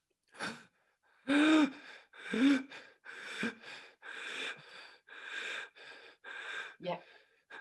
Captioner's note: panting loudly